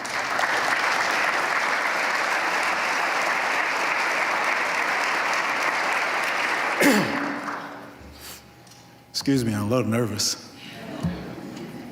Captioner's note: applause